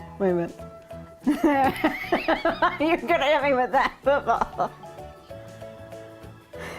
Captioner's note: laughing